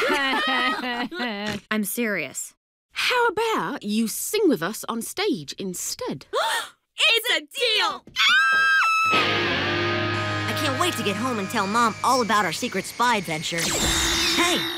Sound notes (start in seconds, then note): 0.0 all laugh; 6.5 both gasp; 8.4 both squeal